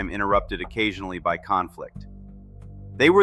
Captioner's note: thoughtful